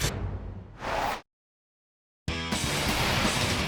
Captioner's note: logo swooshing; upbeat music